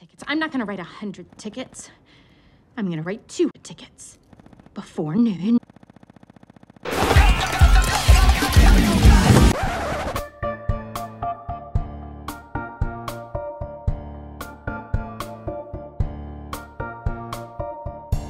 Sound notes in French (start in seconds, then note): 4.3 Encore plus de tapotements nerveux; 7.0 Les tapotements nerveux continuent